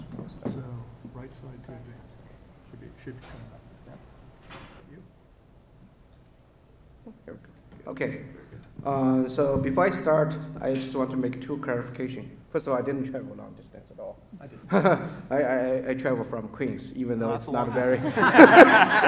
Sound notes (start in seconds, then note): 14.5 laughs